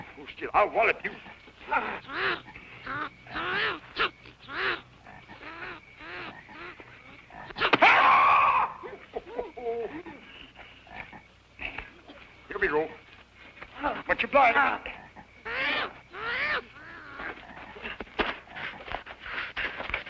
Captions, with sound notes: Hold still, I'll wallop you. [screams] Oh, ho, ho. Here we go. Much obliged. [whimpering]